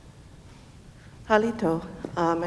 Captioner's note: speaking in foreign language